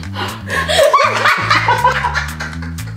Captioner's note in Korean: 웃음